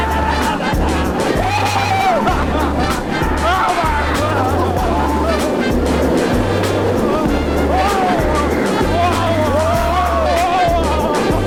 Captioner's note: lots of roller coaster screaming